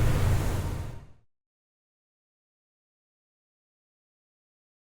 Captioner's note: silence